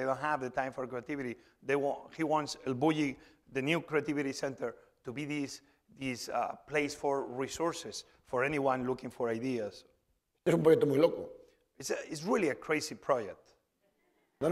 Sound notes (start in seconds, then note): 10.8 speaking spanish